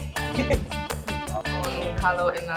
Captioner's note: students laugh; student speaks in Spanish